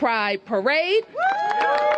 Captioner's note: cheers and applause